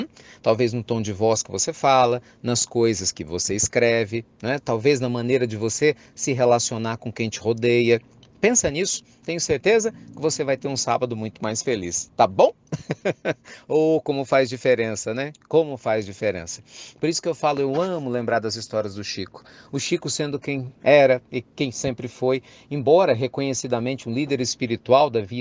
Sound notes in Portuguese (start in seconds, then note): 12.6 risos